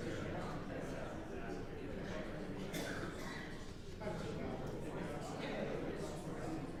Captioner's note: indistinct audience chattering continues